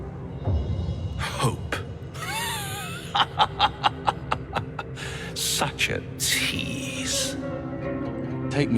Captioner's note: laughing